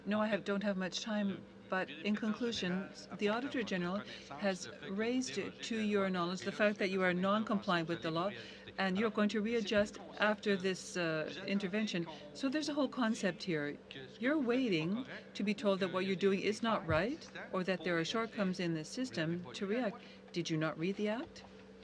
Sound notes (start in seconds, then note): 4.8 speaking French